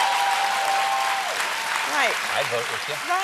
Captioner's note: cheers and applause